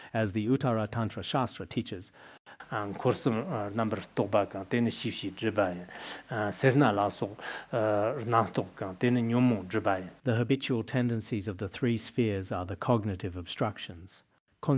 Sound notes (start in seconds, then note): 2.6 citing scripture in Tibetan